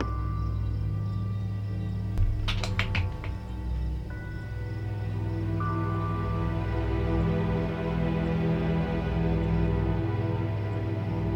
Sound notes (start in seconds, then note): 2.3 box clattering; 4.3 soft tense orchestral music